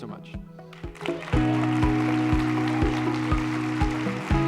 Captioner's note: applause